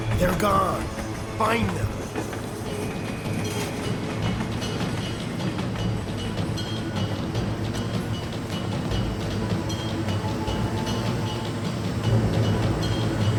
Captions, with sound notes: They're gone find them. (train rattling) (pensive music)